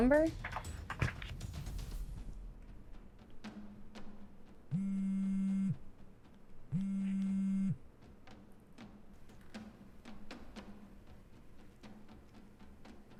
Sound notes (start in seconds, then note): 0.0 dramatic music continues; 4.5 phone ringing; 9.3 dramatic music continues